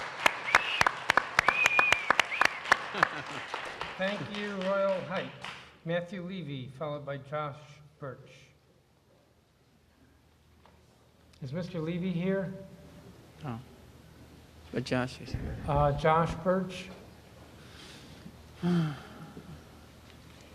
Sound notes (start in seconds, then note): 5.6 applause